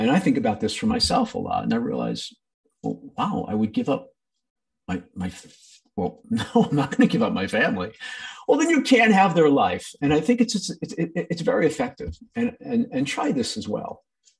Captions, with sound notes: And I think about this for myself a lot and I realize, wow, I would give up my... Well, (laughing) no, I'm not gonna give up my family. Well, then you can have their life. And I think it's very effective, and try this as well.